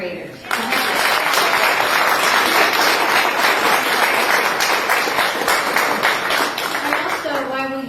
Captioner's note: applause